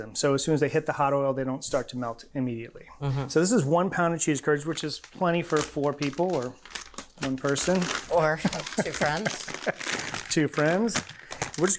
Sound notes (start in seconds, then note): 8.4 laughs